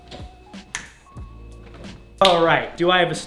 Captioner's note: snap